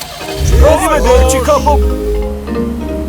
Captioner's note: car engine starts